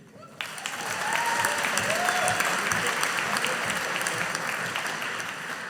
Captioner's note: audience applauding